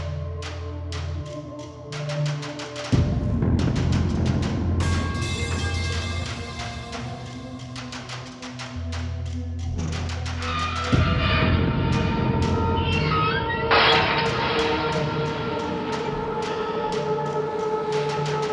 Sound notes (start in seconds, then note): 13.7 metal gate clanking; 14.0 chilling music continuing